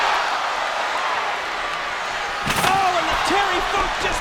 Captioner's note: crowd cheering